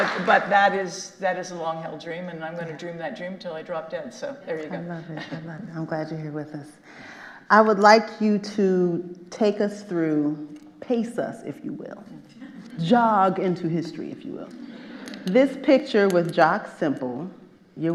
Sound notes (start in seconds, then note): 4.7 chuckles